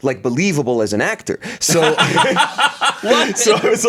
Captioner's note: laughs